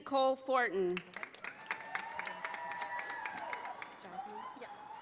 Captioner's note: audience applauding